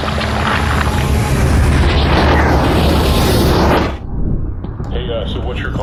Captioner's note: transition sound